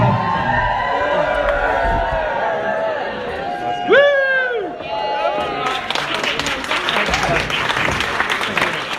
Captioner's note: cheering and Applause